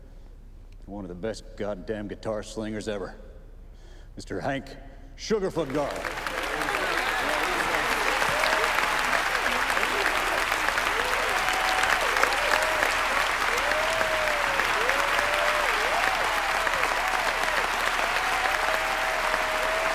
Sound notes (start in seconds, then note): 5.8 crowd applauding; 5.8 crowd cheering